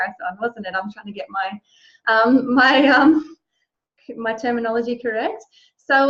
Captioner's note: laughs